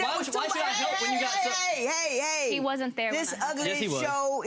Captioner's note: shouting over each other